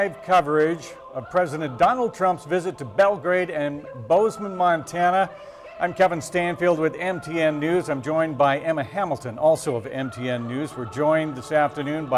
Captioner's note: cheering and applause